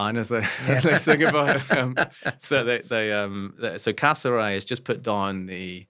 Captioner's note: laugh